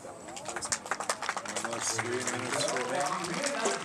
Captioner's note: audience applauds